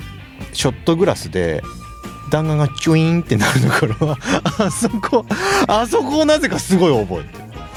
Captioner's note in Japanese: 笑い